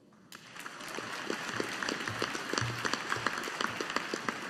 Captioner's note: audience applauding